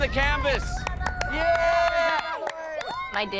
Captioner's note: kids cheering